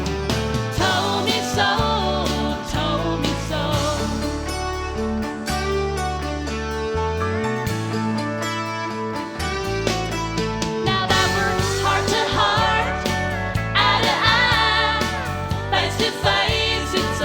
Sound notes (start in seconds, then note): none